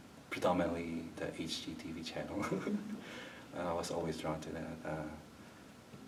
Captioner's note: chuckles